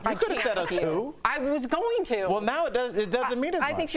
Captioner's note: laughter